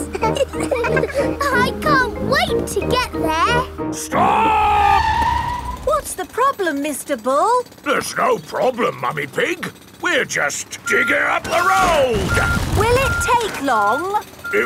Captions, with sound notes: (ALL LAUGHING) I can't wait to get there! -Stop! -(TIRES SCREECHING) What's the problem, Mr. Bull? There's no problem, Mummy Pig. We're just digging up the road! Will it take long?